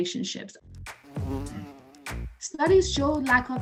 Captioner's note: bee Buzzing